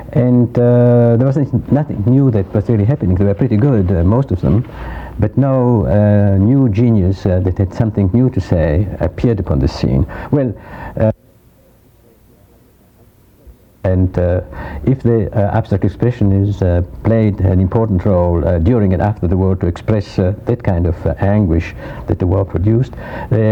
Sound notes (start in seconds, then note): 11.4 audio cuts out